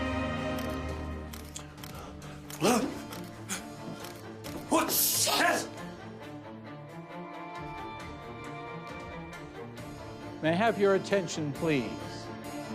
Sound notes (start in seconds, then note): 0.9 camera shutters